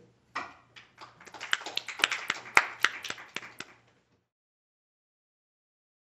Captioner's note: applause